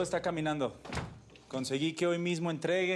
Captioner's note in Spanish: ruido al cerrar